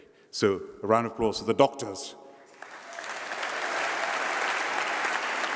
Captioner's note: applause